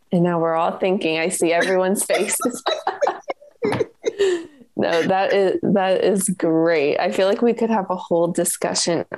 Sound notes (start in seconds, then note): 2.0 laughter